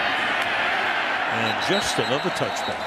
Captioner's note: cheering